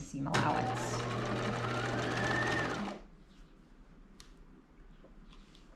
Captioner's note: sewing machine whirring